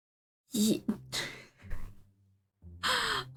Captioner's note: weird sigh